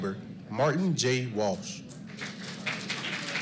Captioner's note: applause